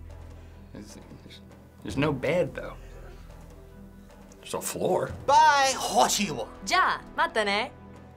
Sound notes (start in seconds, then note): 5.5 speaks Japanese; 6.8 end music